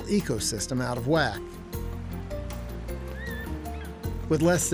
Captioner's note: eagle calling